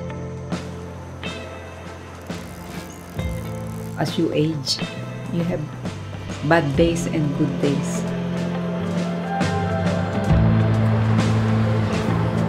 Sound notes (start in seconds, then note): 1.8 waves lapping, insects chittering; 2.1 fishing line clicking; 9.7 airplanes roaring